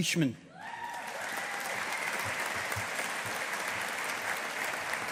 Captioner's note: audience applauding